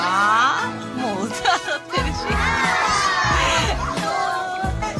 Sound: awww

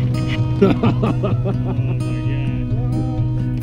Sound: laughter

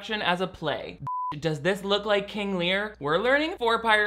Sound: beep

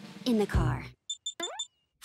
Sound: beeping

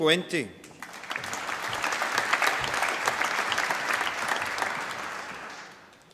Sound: applause

